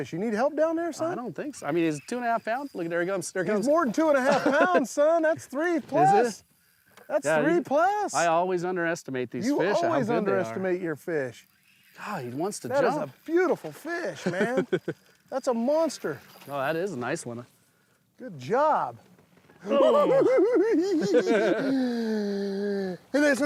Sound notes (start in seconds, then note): 14.1 laughs; 19.6 giggling